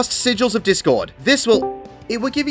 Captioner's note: discord joining sound